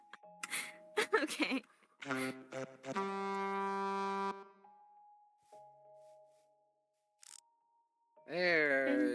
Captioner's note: giggle; blows horn again